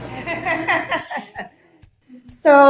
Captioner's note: laughing